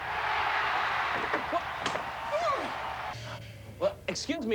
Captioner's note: bat cracks, audience cheers